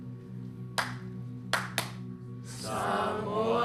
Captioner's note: clap! clap-clap!